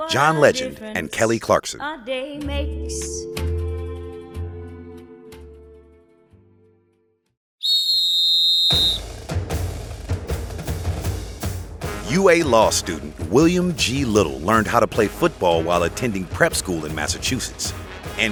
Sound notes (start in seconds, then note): 7.6 whistle blows; 8.9 band plays